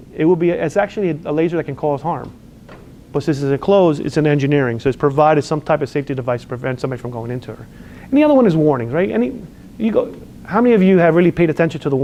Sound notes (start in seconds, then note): none